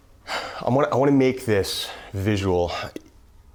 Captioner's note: sighs